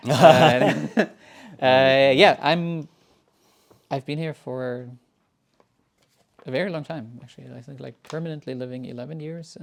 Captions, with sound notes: (laughing) Yeah. I've been here for a very long time actually. I think like permanently living 11 years.